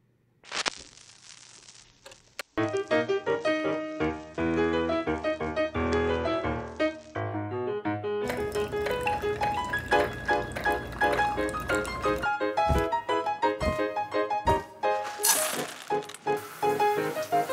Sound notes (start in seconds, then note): 0.3 record crackles; 8.2 coffee trickles; 15.1 food clatters